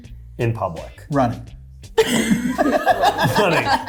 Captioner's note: cast laughing